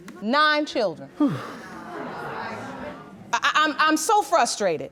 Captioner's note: sighs; audience gasps